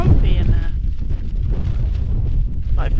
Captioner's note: wind